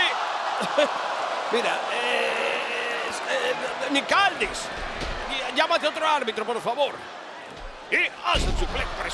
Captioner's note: laugh